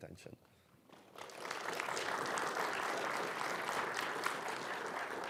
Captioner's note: audience clapping